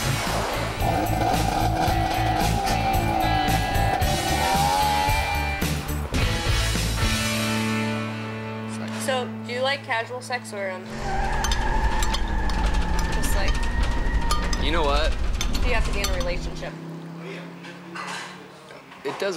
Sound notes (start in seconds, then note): 0.0 light rock music; 0.0 dirt bike revving; 11.2 engines squealing